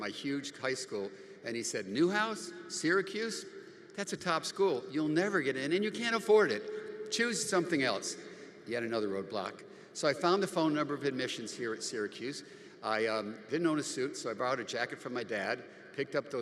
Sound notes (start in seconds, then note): none